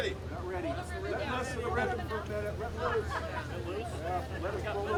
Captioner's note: lively chatter